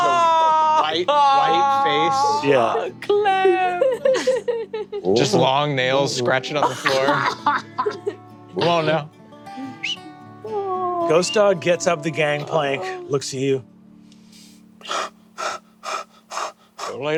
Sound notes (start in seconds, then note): 9.6 whistles; 15.3 mimics dog panting